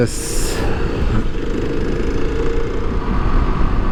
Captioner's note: motor revving